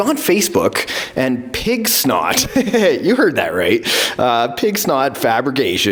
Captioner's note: laughter